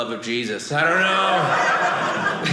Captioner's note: audience laughing